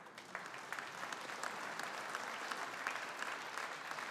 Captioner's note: audience applauding